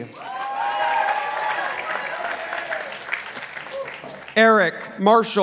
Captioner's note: participants applauding